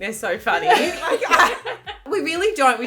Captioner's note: laughing